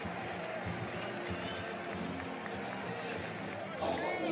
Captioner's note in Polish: Aplauz